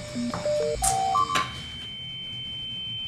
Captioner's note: electronic beep